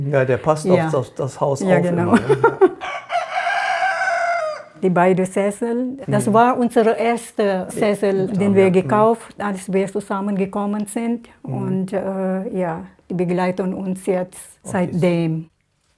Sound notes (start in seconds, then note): 2.6 A rooster crows